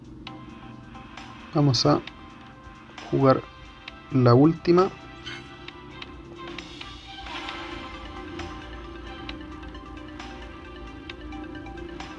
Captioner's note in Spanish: ovación